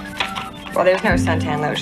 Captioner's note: none